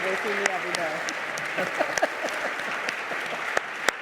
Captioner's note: laughing